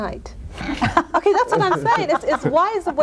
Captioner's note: laugh